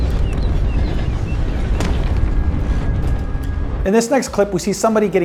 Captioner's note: body hits ground